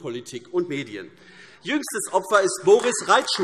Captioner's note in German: Beifall AfD